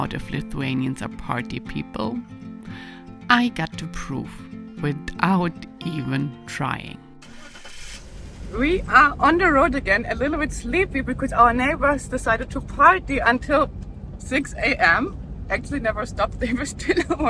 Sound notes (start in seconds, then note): 8.3 vehicle engine whirring